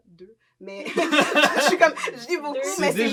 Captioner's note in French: rires